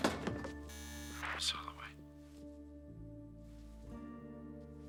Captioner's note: intercom buzzes